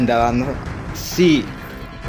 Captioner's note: none